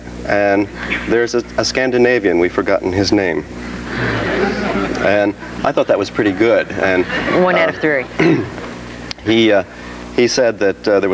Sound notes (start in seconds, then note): 3.7 audience laughs